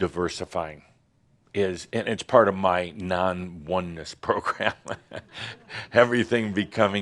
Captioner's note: chuckles